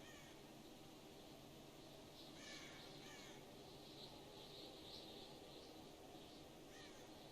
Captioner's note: birds singing